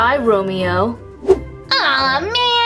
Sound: whoosh

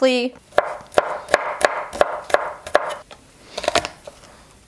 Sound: chopping garlic

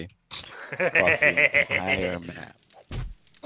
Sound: laughs

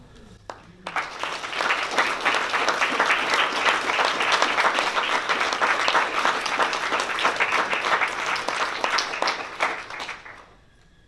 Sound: applause

